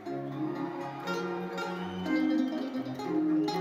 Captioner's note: audience cheers